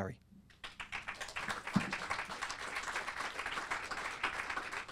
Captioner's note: audience applauding